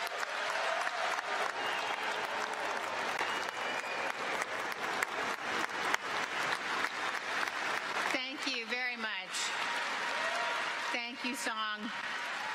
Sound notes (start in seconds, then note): 2.4 cheers and applause